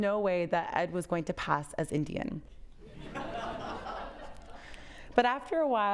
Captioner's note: audience laughs